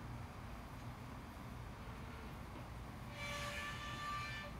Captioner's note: gate creaks